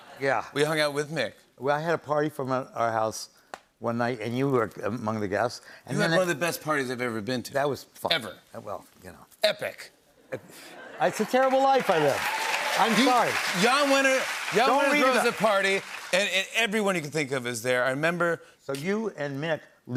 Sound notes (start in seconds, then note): 11.0 cheers and applause